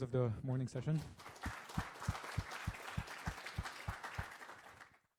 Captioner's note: applause